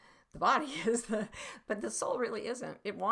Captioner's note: laughing